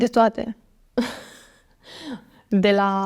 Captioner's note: laughs